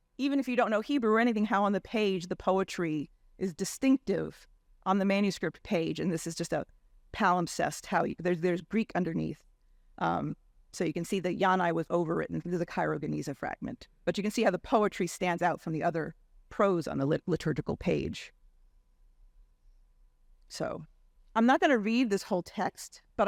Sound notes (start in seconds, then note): 6.7 faintly speaking